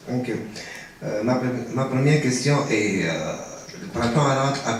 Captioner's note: speaking french